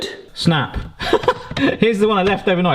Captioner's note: laughs